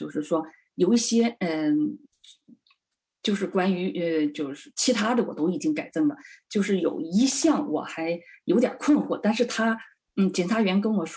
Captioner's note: speaking chinese